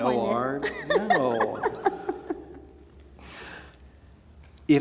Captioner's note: laughing